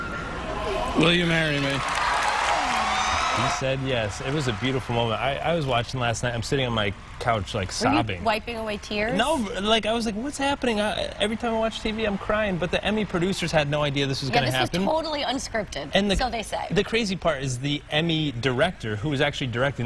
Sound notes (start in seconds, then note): 6.0 applause